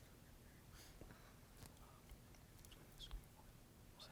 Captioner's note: group whispering